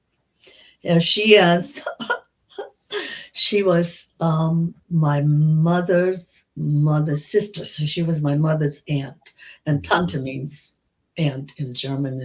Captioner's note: laughter